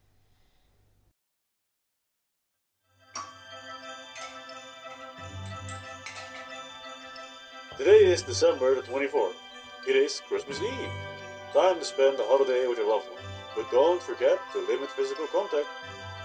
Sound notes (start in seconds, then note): 7.7 tv news